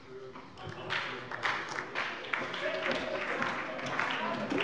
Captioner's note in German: Beifall bei Abgeordneten der SPD